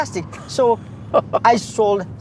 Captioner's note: laughs